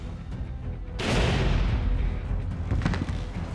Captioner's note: scottish accent; gunshot fired; jenkins thuds on ground